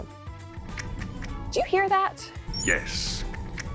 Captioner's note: mandibles clicking; mandibles clicking